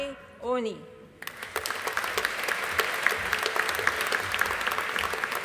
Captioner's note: audience applauding